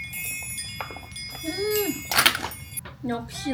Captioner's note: nasal hum